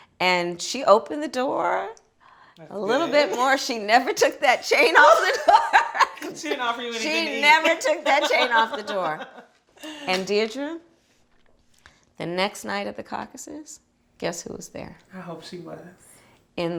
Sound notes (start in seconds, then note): 4.7 women laughing